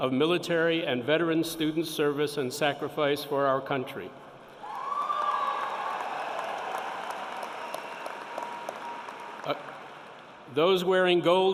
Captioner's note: cheering and applause